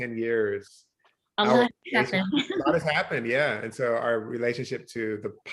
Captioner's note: chuckles